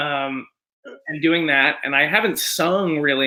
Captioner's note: normal voice